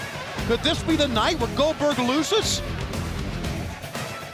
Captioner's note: crowd cheering